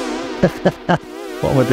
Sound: laughs

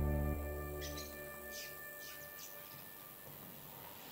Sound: insects chittering; birds chirping

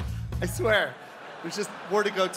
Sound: people laughing

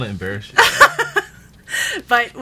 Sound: laughing

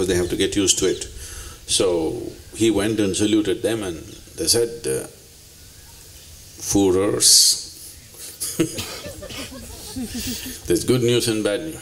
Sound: laughter

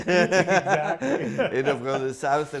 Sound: laughs; both laughing

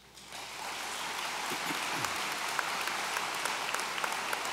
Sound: audience applauds

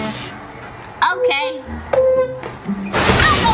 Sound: chair squeaking; lightning crackling

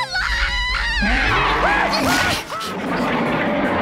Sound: screaming

